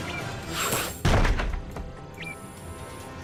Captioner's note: laser blasts